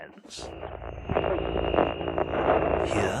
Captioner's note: static